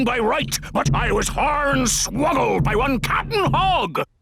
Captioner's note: none